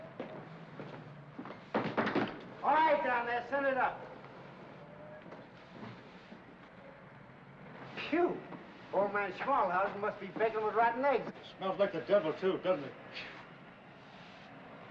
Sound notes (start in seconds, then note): 1.7 bangs on door